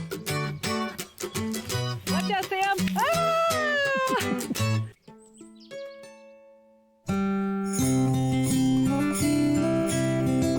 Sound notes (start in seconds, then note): 3.7 cheering